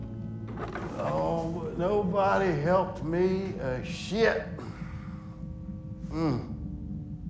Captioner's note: groans